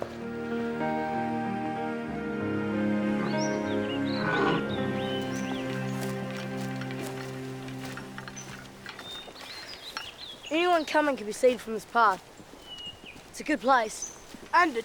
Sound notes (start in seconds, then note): 0.3 peaceful music; 3.5 birds chirping